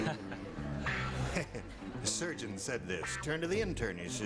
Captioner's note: laughing; theme music